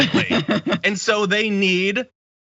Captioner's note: laugh